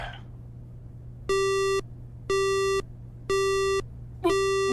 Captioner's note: groan; disconnected service tone